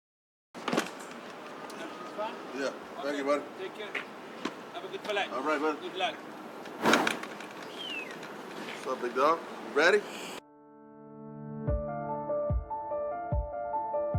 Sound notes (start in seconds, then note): 0.2 car door opens; 6.6 luggage clinks; 12.0 uplifting piano music